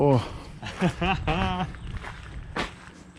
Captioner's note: laughs